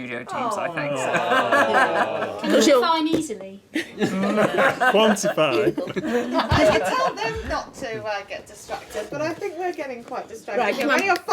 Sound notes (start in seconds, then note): 0.5 laughing; 2.8 groaning